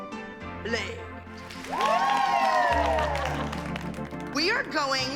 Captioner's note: cheering and applause